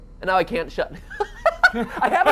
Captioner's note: laughs